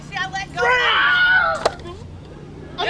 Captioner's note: screams